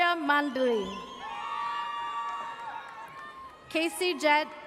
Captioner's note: audience cheers